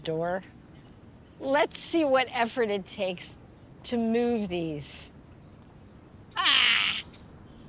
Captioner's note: shouting